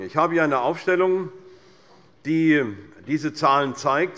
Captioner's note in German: none